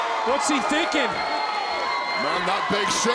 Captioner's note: audience chattering